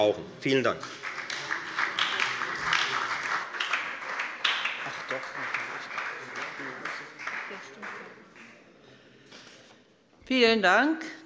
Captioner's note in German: Beifall bei der FDP und der SPD